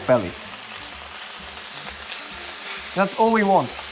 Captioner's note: sizzling sound